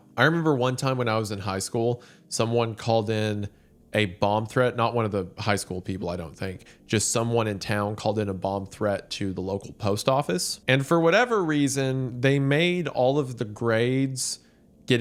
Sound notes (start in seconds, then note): none